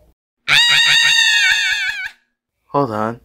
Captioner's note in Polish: krzyczy